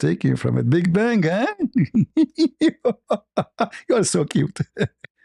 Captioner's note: ketawa